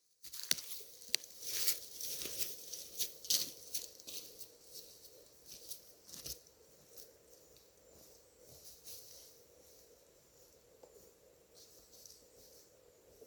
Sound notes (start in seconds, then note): 0.1 rustling leaves